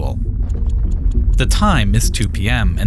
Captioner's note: clock ticking